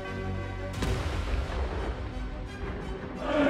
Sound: gun fires; crowd singing

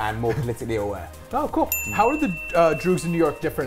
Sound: bell dings

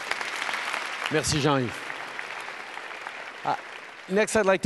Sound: applause

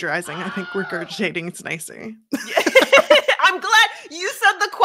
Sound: both laugh

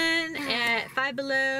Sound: sighing

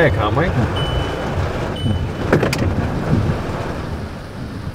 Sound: rain pouring

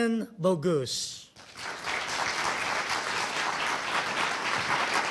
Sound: audience applauding

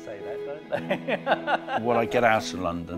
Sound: laughing

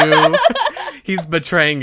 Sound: laughs

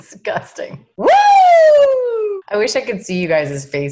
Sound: cheers loudly

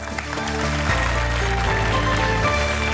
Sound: applause

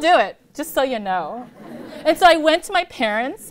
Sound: laughter

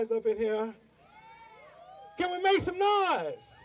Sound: audience yells

